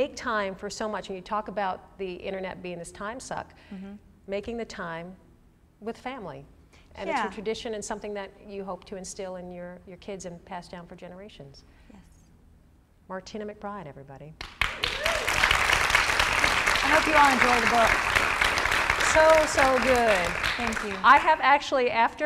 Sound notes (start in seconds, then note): 16.1 applause